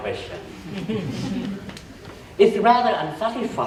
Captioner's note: chuckling